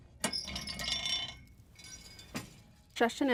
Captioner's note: rattling